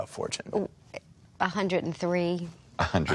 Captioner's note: stammers